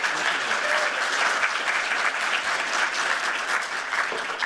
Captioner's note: applause